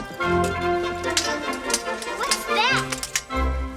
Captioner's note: swords clanking